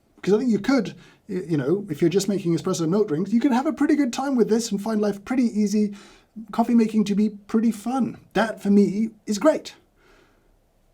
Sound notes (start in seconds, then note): none